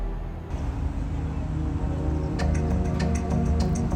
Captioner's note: air whooshing